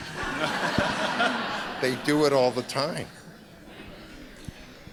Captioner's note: laughter